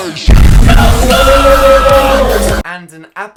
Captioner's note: explosion